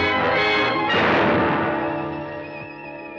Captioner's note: gun shot